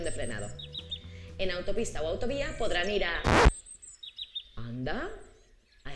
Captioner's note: sound disc rewinding